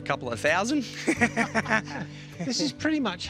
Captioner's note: laughs